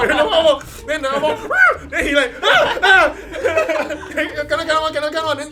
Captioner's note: imitates scream